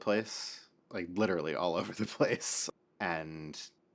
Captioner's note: laughs